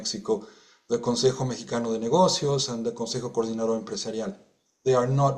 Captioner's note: speaking in Spanish